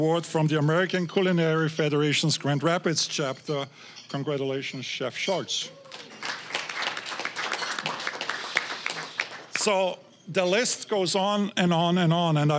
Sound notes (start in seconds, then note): 5.7 applause